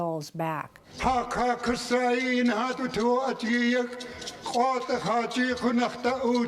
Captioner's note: speaking in Lingít